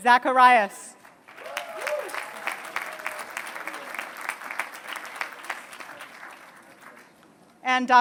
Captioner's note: applause